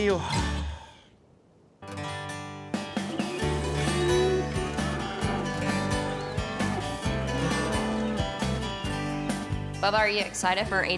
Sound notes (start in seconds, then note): 3.4 cattle moo